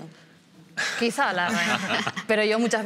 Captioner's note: laughing